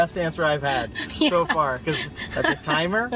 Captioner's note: laughing